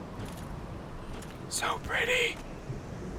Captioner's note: horrible horse voice: "so pretty"